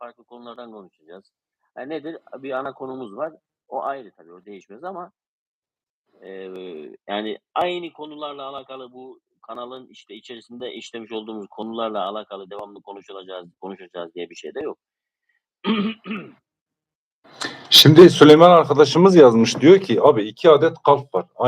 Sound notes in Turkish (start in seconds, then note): 15.6 öksürme; 15.6 boğazını temizler